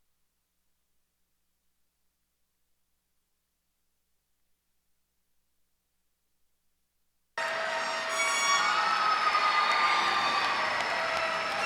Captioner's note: cheers and applause